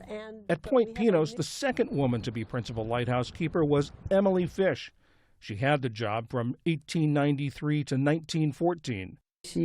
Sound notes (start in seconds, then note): 0.9 voice-over